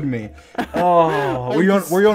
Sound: laughs; sighs

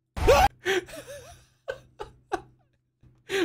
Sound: laughing

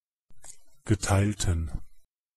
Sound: fast Pronunciation

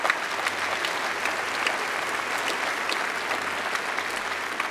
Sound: applause

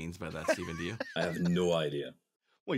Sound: laughs

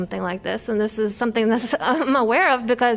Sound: laughter

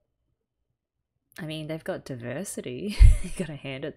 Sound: laughs

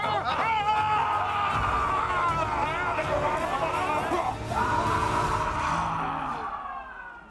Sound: grunting rhythmically; all cheering

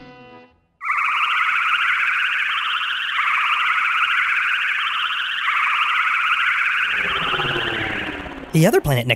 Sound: spaceship flying sounds

